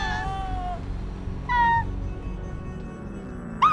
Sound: squealing; screaming

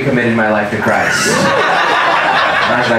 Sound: audience laughing

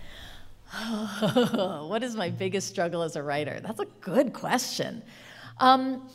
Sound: chuckling

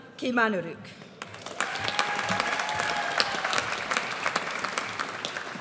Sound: audience cheers

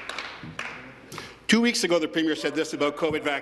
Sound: some Applause

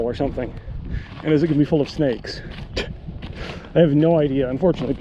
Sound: laughs

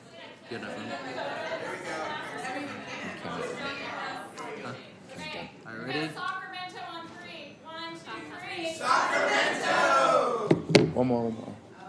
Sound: background chatter

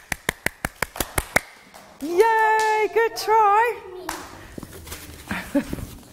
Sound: clapping

